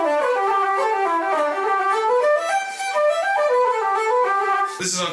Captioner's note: none